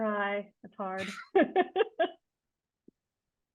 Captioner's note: laughing